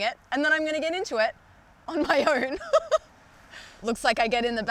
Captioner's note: laughs